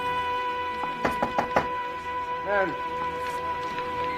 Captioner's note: knocking on door